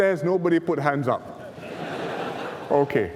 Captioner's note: laughter